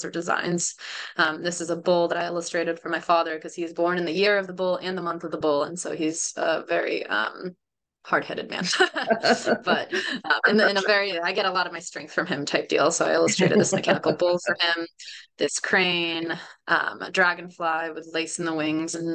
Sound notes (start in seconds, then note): 8.6 laughter